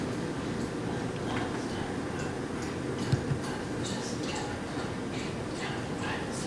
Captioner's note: whispers